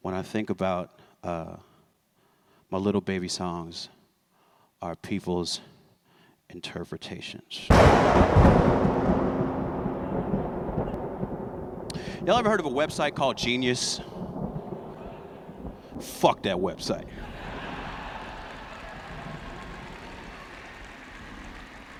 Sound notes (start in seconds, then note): 7.7 audio clip of thunder clap; 17.1 laughter; 17.1 applause